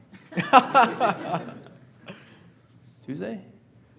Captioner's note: laughing